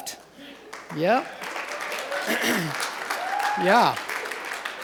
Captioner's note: applause